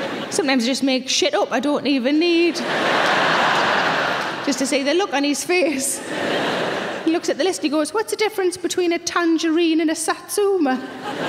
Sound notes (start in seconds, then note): 2.4 audience laughing